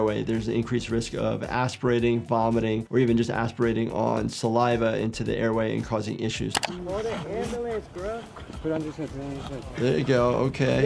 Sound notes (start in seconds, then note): 6.5 graphic clicks